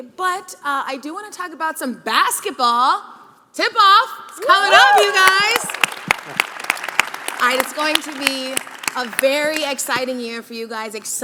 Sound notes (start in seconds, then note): 4.7 audience clapping